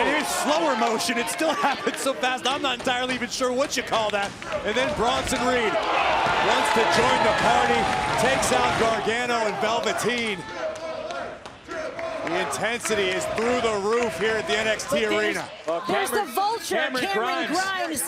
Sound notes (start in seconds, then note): 11.8 crowd cheering